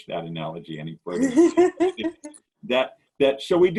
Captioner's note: laughs